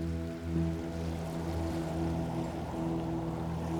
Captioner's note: wind blows